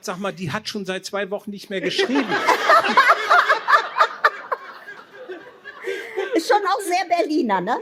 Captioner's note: laughter